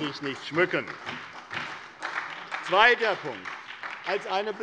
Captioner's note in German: Beifall bei der SPD